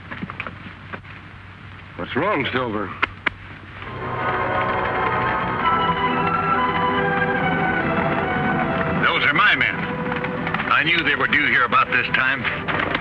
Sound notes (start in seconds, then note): 4.0 galloping; 5.3 suspenseful music